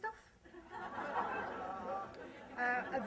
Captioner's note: laughter